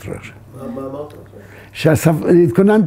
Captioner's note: in Hebrew